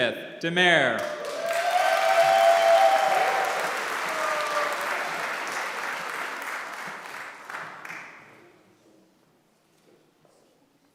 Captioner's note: applause